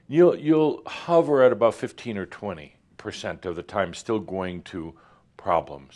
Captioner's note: none